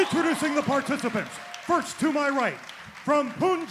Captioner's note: crowd cheering